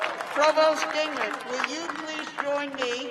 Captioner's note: cheers and applause